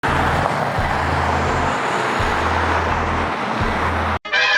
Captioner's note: cars driving